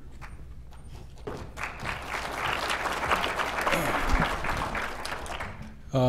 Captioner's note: applause